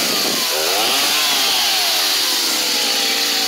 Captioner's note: loud chainsaw sound